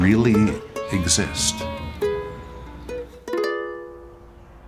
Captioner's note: sheep baaing